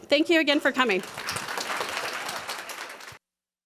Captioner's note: applause